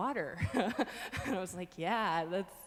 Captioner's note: laughing